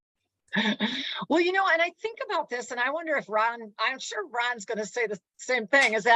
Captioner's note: chuckles